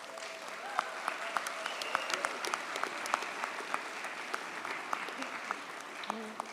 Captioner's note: audience cheers; audience applauds